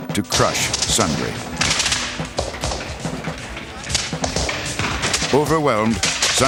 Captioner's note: gunfire